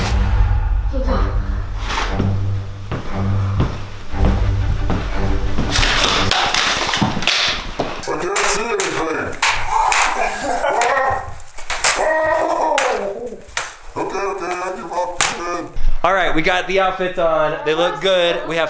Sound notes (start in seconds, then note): 0.0 dramatic music; 10.3 laughs; 10.3 yells